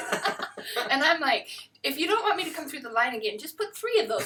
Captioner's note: laughter